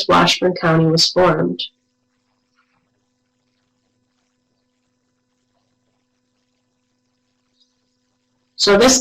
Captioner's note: no sound